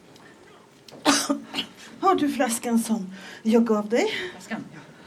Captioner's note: coughs